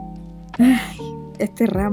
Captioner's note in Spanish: suspiro